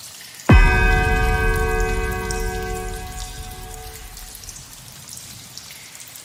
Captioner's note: sixth bell